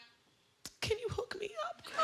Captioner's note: laughter